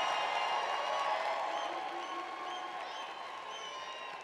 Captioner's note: applause